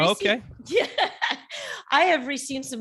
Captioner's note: laughing